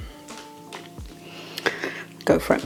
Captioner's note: laugh